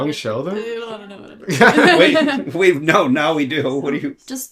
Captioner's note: laughter